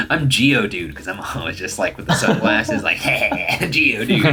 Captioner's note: laughs